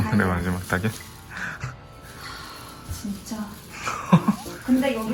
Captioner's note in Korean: 킁킁킁